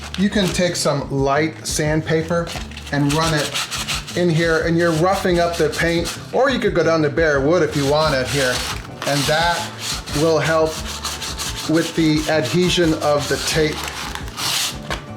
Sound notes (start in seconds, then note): 7.6 sandpaper scritches